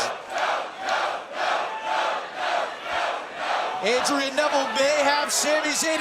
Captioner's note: crowd cheering